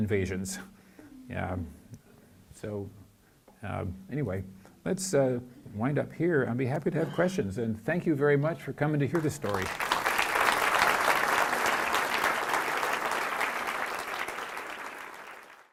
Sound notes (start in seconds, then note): 9.1 applause